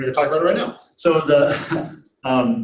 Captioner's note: chuckles